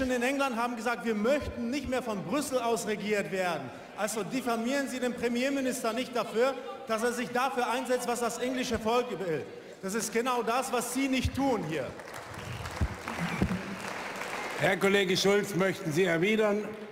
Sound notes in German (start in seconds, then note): 11.4 Beifall bei der AfD